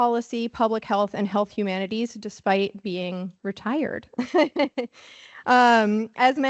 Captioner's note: laughs